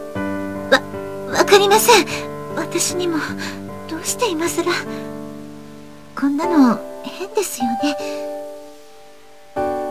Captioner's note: rain